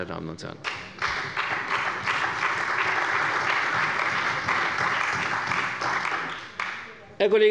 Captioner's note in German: Beifall bei der CDU und dem BÜNDNIS 90/DIE GRÜNEN